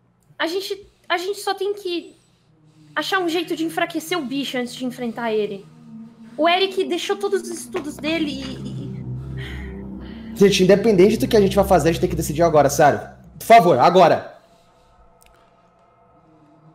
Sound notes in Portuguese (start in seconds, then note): 8.9 suspiro